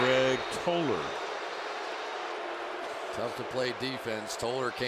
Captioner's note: booing